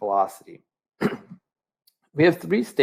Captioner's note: clears throat